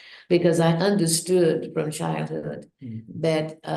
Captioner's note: none